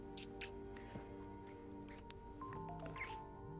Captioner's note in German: handy klingelt; seufzt